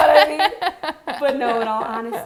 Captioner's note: laughing